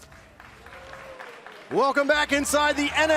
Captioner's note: crowd cheering